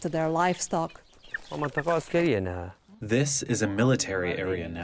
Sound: through translator

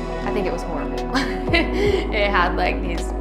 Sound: chuckles

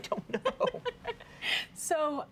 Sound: giggling

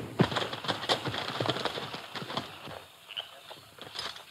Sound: hooves rustling

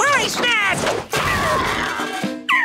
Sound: banging; squawking

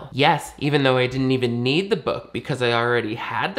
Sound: none

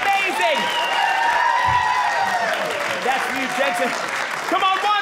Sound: audience cheering

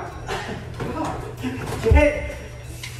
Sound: grunts and giggles

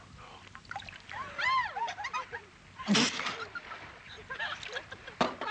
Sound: women laughing

